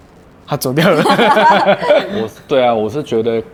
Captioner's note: laughter